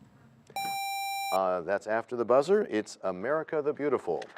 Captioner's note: bell rings, time expires